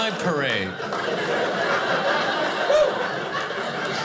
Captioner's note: audience laughing